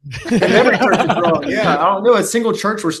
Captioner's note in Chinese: 笑声